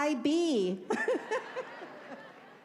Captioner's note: laughing